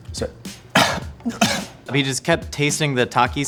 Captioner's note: coughs